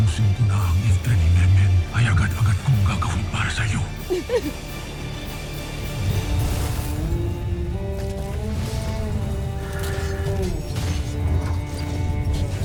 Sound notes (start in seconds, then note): 3.9 sobs; 5.3 rousing music playing